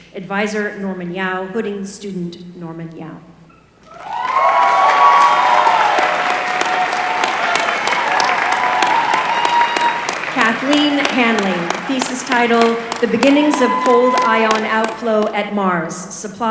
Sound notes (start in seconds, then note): 4.0 applause